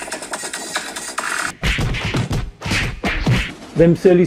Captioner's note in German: Prügelgeräusche